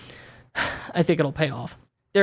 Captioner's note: exhales heavily